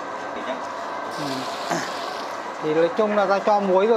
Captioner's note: water pouring sound